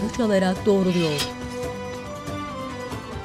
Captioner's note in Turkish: Kılıç sesi